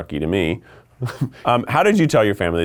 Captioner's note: laughing